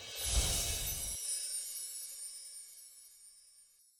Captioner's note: sparkling